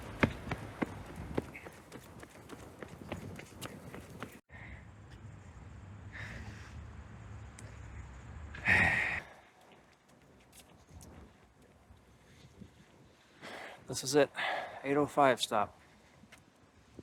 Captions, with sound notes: [sighs] This is it, 805 stop.